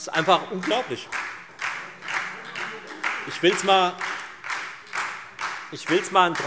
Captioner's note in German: Beifall Freie Demokraten und vereinzelt SPD